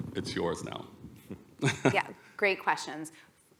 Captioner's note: laughter